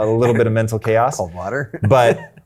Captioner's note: chuckles